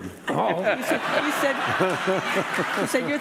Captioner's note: audience laughing